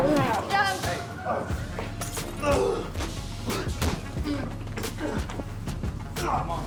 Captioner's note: distorted music; prisoners scuffle